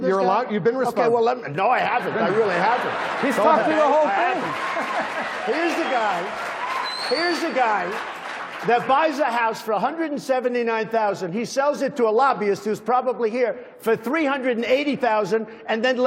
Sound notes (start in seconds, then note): 5.1 laughter; 6.1 applause